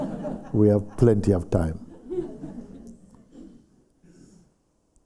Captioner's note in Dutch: gelach